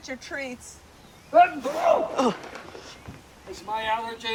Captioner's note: sneezing loudly